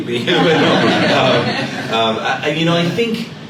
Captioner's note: laughter